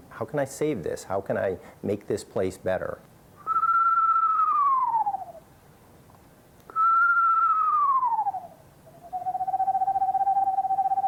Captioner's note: whistling